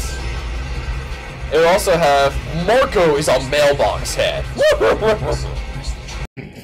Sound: laugh

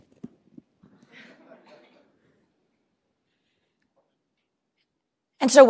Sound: laughter

